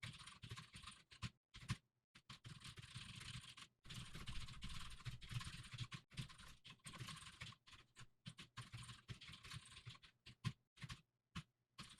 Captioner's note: typing sounds